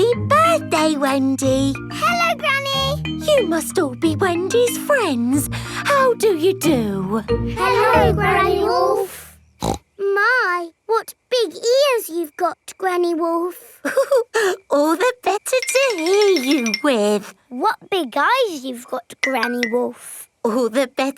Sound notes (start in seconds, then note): 9.6 snorts; 13.8 chuckles